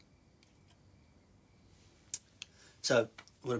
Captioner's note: none